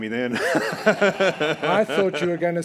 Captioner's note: all laughing